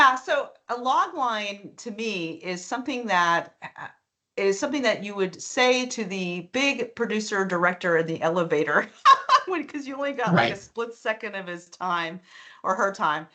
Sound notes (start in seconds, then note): 10.2 laughing